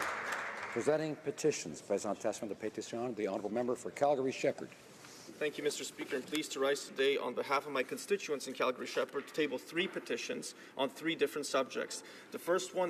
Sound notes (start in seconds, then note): 0.0 some Applause; 5.6 speaking French